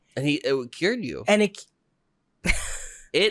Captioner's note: laughs